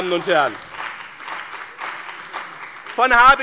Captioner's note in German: Beifall bei dem BÜNDNIS 90/DIE GRÜNEN und der CDU